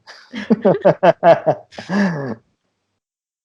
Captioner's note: laughter